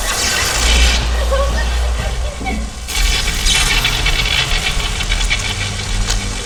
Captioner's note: electric buzzing; Jaime whimpering